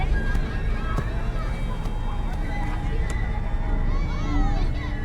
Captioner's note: ball thwacking; ball thuds; foreboding music